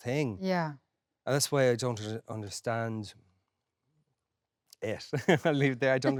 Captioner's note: laughs